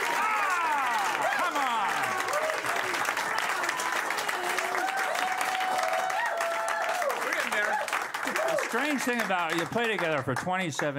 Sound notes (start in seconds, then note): 2.2 cheers and applause continue